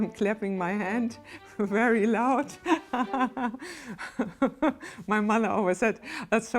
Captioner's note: laughs